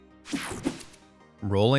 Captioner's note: screen whooshing